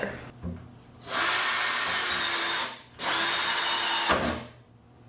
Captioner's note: drill sounds